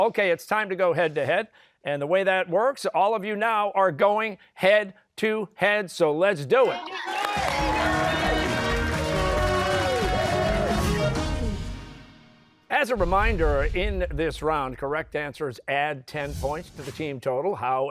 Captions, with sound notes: Okay, it's time to go head-to-head. And the way that works, all of you now are going head-to-head, so let's do it. (cheers and applause) As a reminder, in this round, correct answers add ten points to the team total.